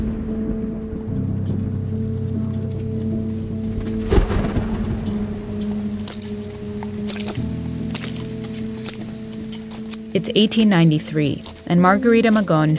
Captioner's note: soundbite of footsteps splashing